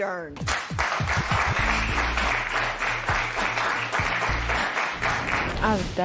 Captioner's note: applause